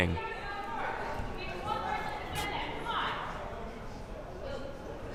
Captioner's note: crowd cheering